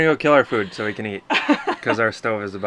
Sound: laughing

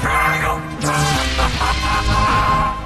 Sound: laughs

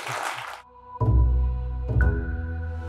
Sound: applause

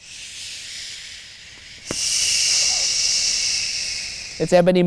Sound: both shush

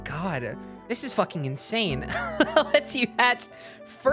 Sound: laughing

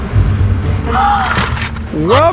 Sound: gasps

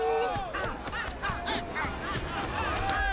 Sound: mob shouting

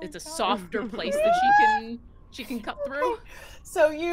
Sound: game Master laughs

